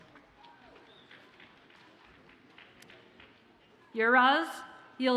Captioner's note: audience applauds faintly